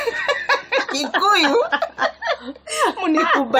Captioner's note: laughter